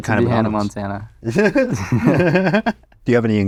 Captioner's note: both laugh